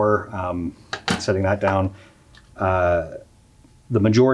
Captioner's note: unit thuds